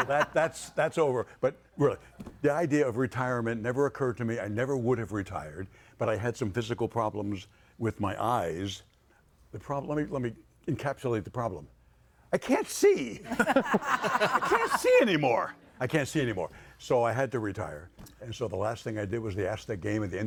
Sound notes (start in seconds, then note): 13.3 audience laughing